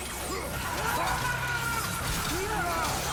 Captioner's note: scream